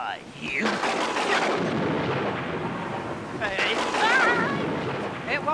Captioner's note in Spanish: trueno estrellándose